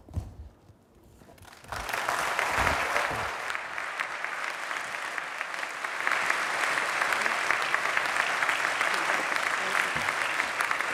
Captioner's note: applause